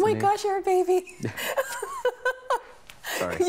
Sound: laughing

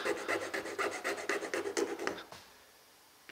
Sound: scraping

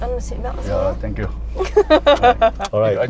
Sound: laughs

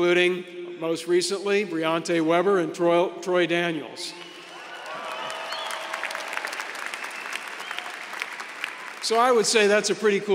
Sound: applause

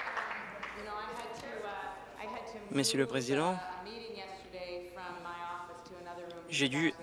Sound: some Applause

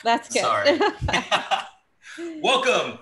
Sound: laughs

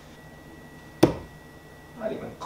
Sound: thuds

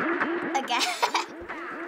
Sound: laughs

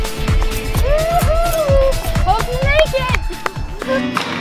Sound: cheering

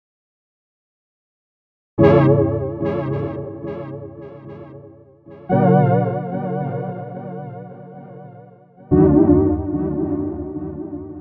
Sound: sound of mysterious sci-fi

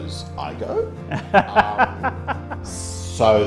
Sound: laughs

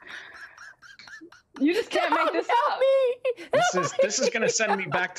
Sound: laughs

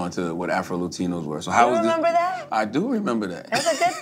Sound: laughs

